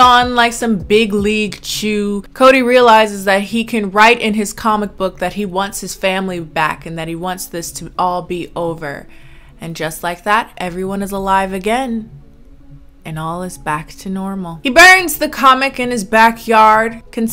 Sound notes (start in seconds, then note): none